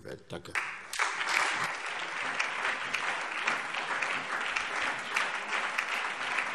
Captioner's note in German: Beifall SPD, CDU, BÜNDNIS 90/DIE GRÜNEN und DIE LINKE